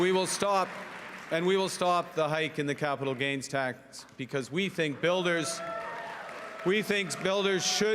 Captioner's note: cheering and Applause